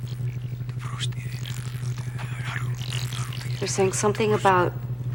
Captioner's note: whispers in foreign language